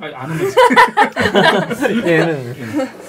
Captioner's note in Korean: 웃음